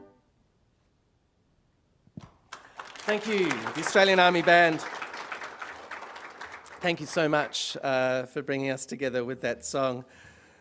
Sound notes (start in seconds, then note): 2.4 applause